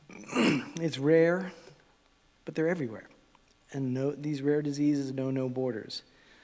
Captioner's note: cough and clears throat